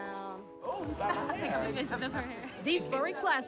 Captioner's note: group laughing